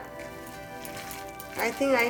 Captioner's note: batter mixing together